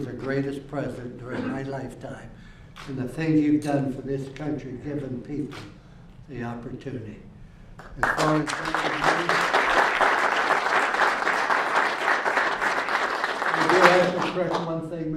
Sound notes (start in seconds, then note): 7.8 applause